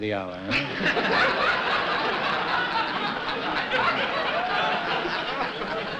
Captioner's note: laughter